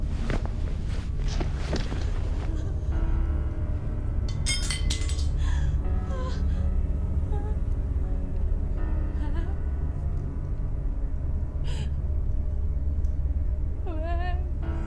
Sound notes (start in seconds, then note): 3.0 light dramatic music; 4.2 metal clinking